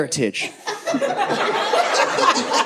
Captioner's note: audience laughing